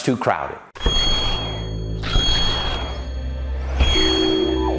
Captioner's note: animated sounds